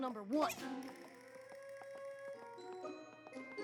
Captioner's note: poink!